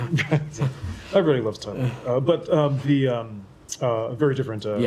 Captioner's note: laughter